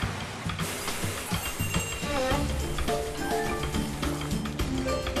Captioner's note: boiling